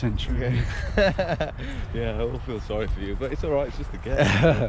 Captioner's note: laughs